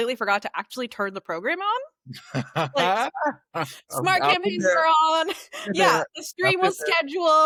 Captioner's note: laughter